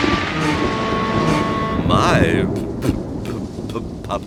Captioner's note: thunder crashing